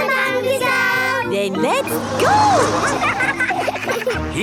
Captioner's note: laughing